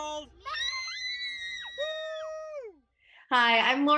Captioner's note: kids screaming